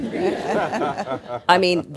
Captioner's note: laughter